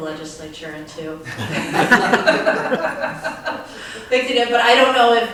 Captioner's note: all laugh